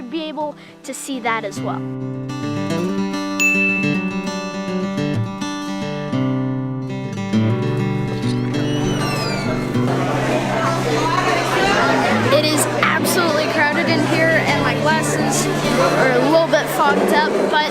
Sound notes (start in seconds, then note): 3.4 ding; 3.4 light music; 12.3 diners talking